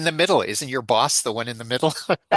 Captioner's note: laughs